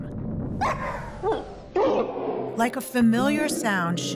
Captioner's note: barking, audio slowing down